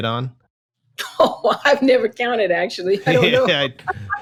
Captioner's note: laughter